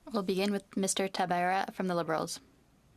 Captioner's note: speaking French